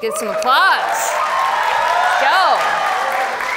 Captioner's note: audience cheers and applauds